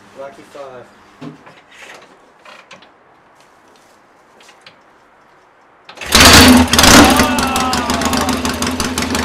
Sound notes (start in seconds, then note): 5.9 engine starting